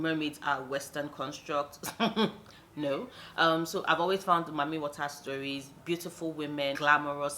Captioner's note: laughs